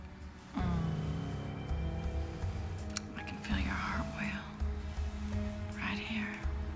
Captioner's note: moans